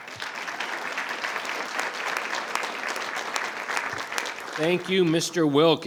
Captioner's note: attendees applauding